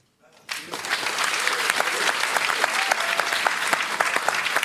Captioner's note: applause